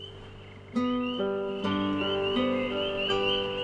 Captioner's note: frogs calling